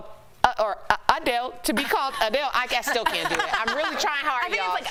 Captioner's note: laughter